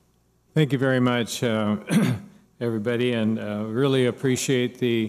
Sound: clears throat

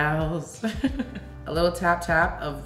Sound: laughs

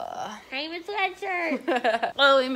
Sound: groans; laughing

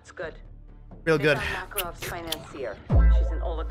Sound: lip smacking

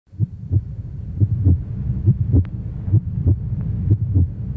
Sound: heart beating

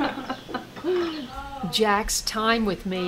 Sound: on phone talking

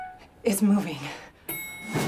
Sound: elevator bell dings

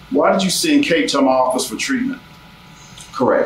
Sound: none

